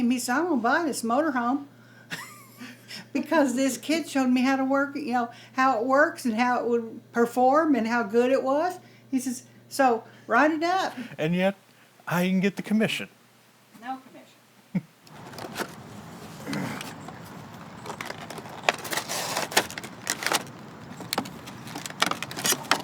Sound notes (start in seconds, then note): 2.6 laughs; 11.2 chuckles; 15.1 box scuffing; 19.2 plastic scraping; 22.5 plastic squeaking